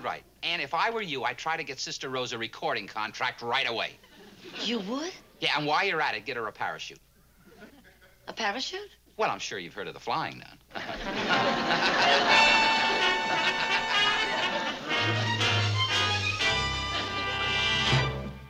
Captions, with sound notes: Ann, if I were you I'd try to get Sister Rose a recording contract right away. You would? Yeah, and while you're at it get her a parachute. A parachute? Well, I'm sure you've heard of the Flying Nun? (laughs)